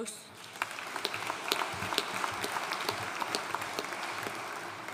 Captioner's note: audience applauding